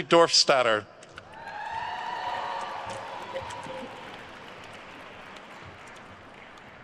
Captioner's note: attendees cheering and applauding